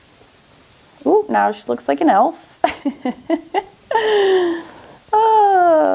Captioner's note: laughs